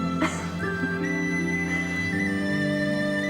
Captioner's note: laughing